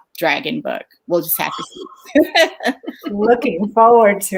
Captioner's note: laughs